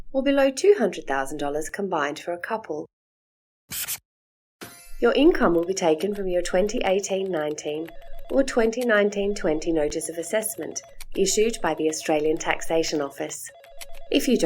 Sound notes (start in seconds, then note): 2.7 sound of a texta writing; 4.0 chime sound; 5.0 background sounds of phone ringing, sound of typing